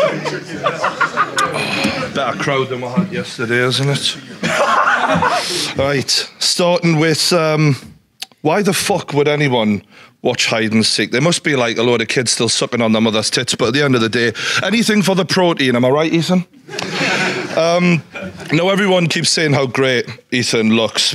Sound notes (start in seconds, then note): 4.1 Sidemen laughing; 16.6 audience laughing